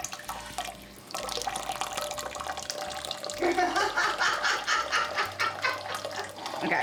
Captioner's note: laughter